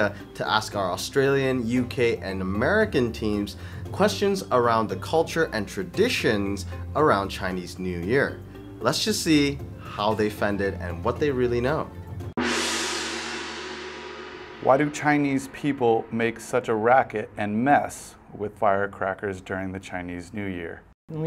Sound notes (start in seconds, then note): 12.4 gong crashes